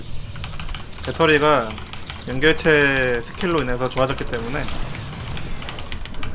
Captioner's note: battery overcharge